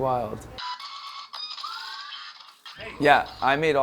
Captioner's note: mechanical whirring